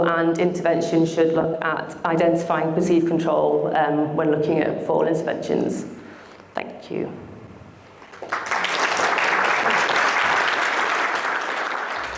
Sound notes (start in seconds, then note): 8.0 audience applauds